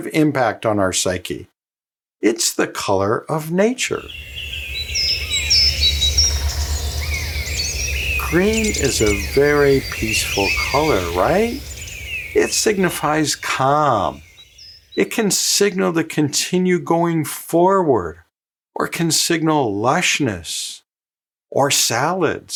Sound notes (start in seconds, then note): 8.1 nature sounds